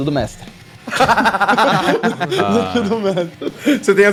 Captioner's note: laughter